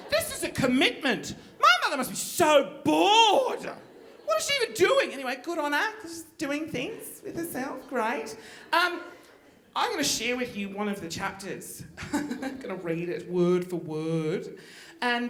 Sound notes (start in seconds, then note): 12.2 laughs